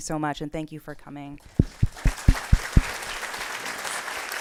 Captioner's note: applause